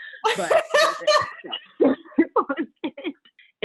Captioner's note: laughing